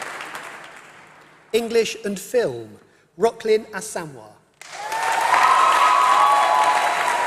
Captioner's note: applause